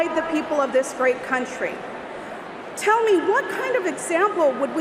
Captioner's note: speaking non-English